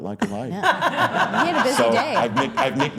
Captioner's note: all laughing